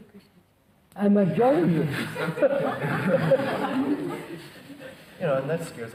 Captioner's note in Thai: หัวเราะ